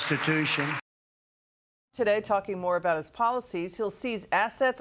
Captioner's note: cheers and applause